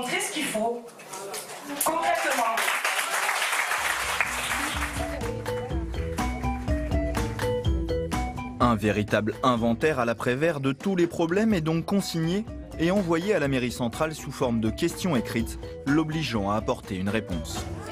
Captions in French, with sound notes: Concrètement. (applaudissements) (musique légère) -Un véritable inventaire à la Prévert de tous les problèmes est donc consigné et envoyé à la mairie centrale sous forme de questions écrites, l'obligeant à apporter une réponse.